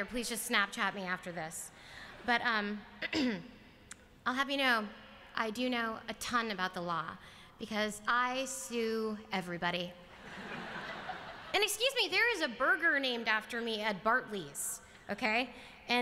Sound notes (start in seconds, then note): 10.1 laughter